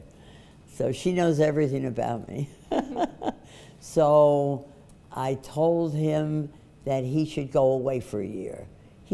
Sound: laughs

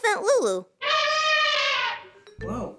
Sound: elephant trumpets

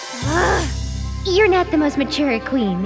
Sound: Lady Diva grunts

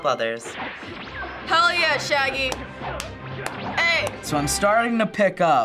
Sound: claps

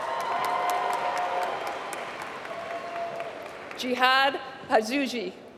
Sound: applause

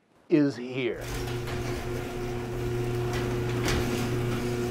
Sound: door opening

